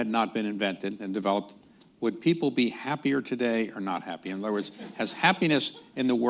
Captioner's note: laughter